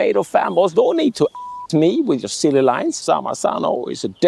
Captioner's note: beep